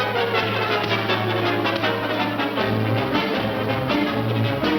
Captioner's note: dull thudding